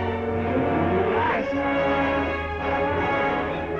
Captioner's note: screams